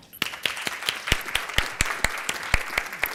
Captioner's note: applause